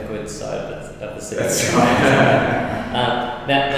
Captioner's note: laughs